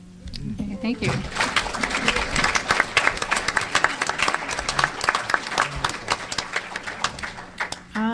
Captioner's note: applause